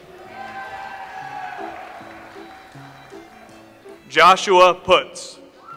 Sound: audience applauds

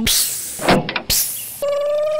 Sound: crane motor; clamp; hiss

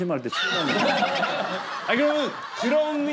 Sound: laughing

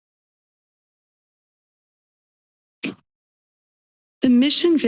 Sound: silence

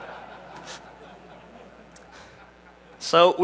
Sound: laughter

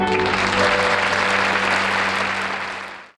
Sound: audience clapping

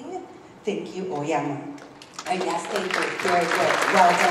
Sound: applause

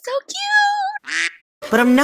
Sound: quack

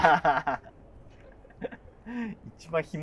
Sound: laughing

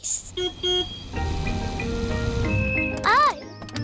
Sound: car horn beeps

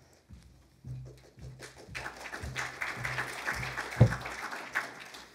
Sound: applause

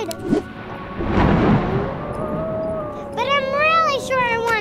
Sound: wolf howls; thunder crashes

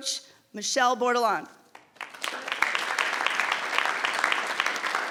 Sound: audience clapping

